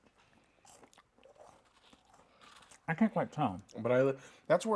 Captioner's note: both chewing